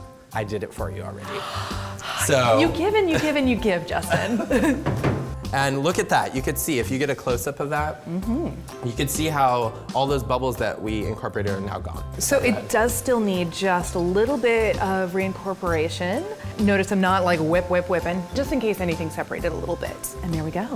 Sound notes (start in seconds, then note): 1.2 exhale; 4.0 laughter; 4.0 bowl banging